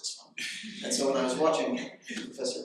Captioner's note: audience laughing